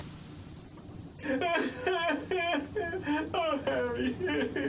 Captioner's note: Dan crying